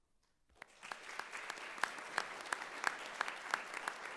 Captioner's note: audience clapping